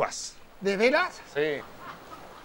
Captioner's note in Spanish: Risas